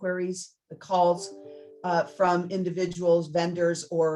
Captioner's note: computer chimes